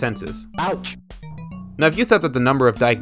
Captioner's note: patient shouts "Ouch!" after being poked in the hand by a nail